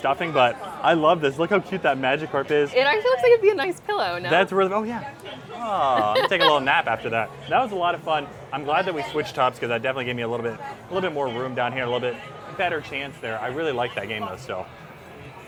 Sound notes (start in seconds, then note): 6.0 laughs